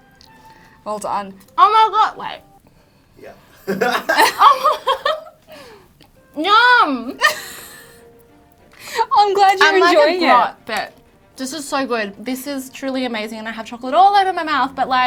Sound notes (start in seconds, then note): 3.5 laughs; 6.9 laughs